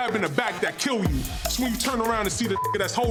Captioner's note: beep